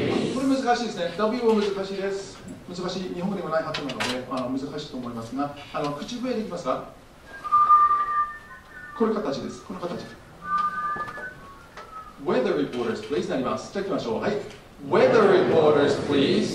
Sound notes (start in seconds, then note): 10.2 whistling